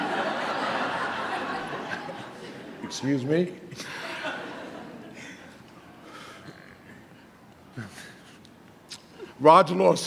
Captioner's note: audience laughter